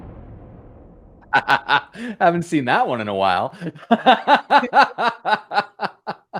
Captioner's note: explosion; laughter